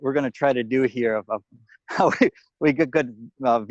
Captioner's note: chuckling